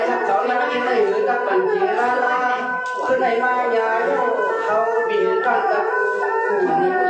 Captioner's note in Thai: ปรบมือ